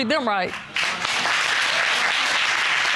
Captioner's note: audience applauds